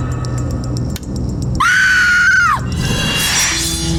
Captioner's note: woman Screams